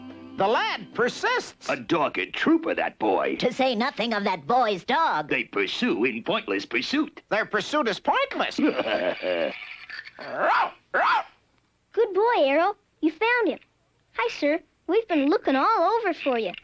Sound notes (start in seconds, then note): 8.4 laughs; 10.3 Arrow barking